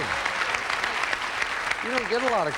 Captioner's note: audience applauding